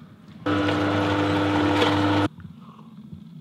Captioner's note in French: bruit de l'extracteur